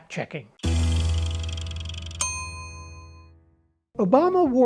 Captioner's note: meter dinging